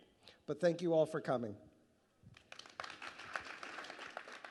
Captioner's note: clapping